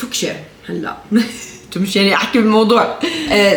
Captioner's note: laughs